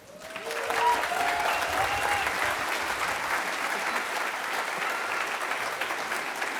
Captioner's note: applause